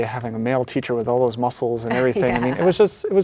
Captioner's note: laughs